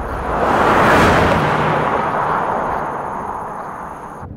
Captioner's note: car whooshing